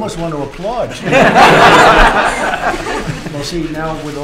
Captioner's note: laughter